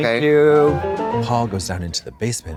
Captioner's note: bright chime